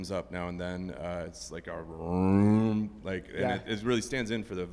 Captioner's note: mimics cello